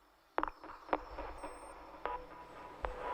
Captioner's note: eerie sounds